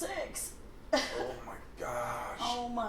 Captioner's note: laughing